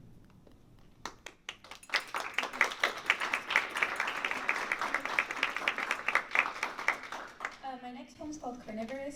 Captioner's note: applause